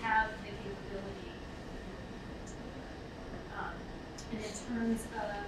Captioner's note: speaking away from mic